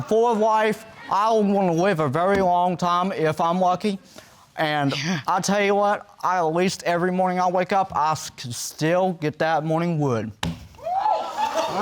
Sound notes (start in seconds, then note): 5.4 scoffs